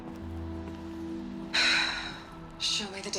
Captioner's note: sigh